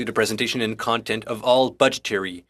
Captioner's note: speaking French